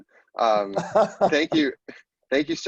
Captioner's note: laughing